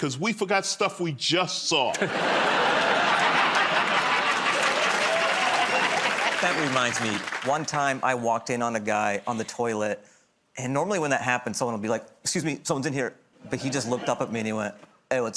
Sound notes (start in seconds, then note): 1.9 laughter